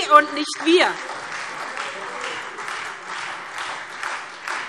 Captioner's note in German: Beifall SPD und Freie Demokraten